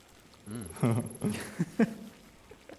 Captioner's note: laughs